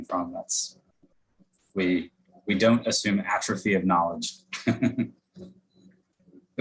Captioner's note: laughs